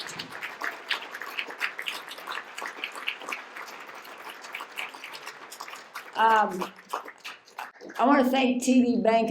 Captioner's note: applause continues